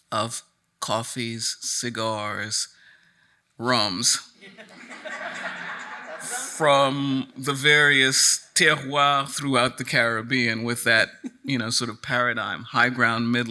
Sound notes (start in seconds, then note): 4.4 attendees laughing